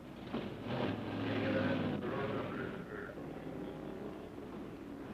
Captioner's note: announcer chattering